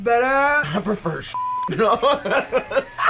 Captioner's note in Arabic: الصافرة; كلاهما يضحك